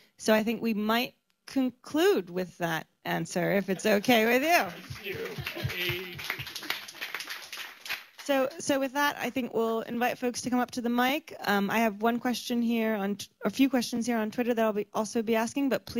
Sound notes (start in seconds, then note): 4.9 laughter; 7.2 applause